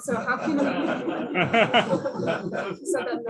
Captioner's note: laughter